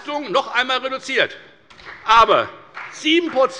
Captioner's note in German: Beifall bei der FDP